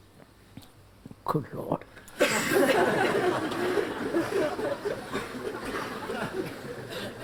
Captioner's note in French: Rires